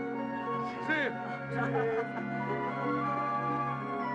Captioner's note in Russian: радостно смеются